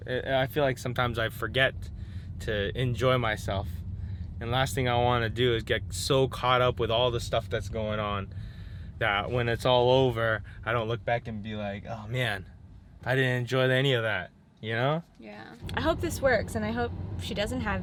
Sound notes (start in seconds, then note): none